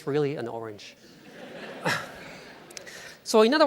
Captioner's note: laughing